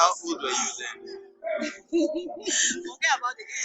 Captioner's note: laughs